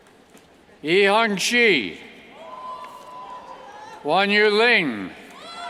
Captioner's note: cheers